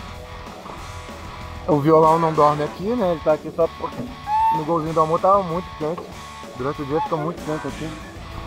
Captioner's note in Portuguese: barulho do violão batendo na câmera